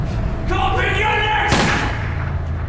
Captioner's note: gunshot